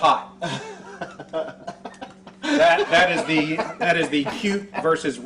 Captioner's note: interviewer laughing